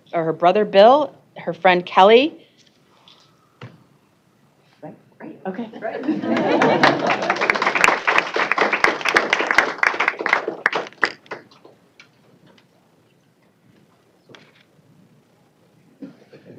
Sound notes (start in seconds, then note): 5.8 laughter; 6.1 applause